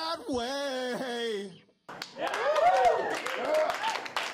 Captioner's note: cheering and applause